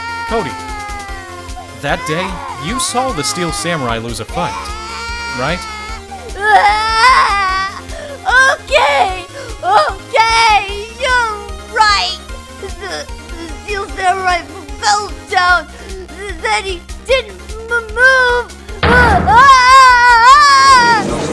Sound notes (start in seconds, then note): 7.0 crying; 13.2 sob; 18.8 loud wailing